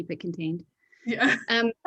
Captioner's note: chuckles